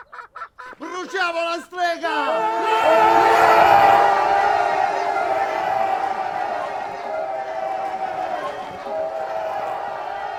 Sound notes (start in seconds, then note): 2.4 crowd exults excited